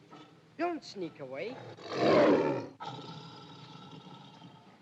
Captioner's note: tiger roars